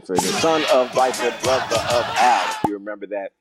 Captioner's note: pop sound; pop sound